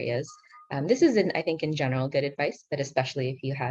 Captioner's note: speaking in foreign language